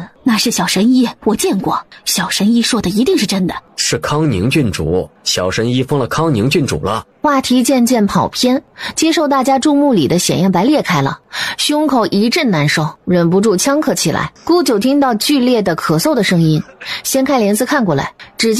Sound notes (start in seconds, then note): 16.5 severe coughing